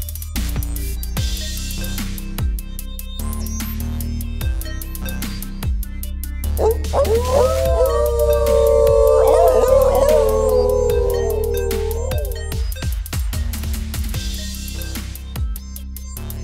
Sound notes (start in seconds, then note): 6.6 howling